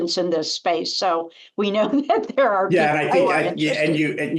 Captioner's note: laughter